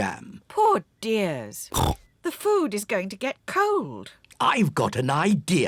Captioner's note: snorts